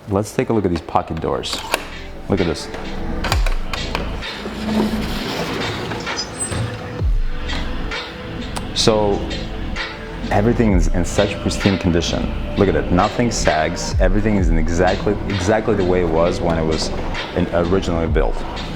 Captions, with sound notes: let's take a look at these pocket doors, (door creaking) look at this. (door creaking) (upbeat music) So everything is in such pristine condition. Look at it nothing sags, everything is exactly the way it was when it was originally built.